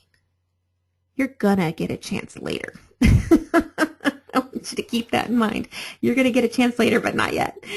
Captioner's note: laughter